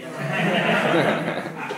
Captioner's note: laugh